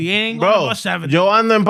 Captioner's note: speaking Spanish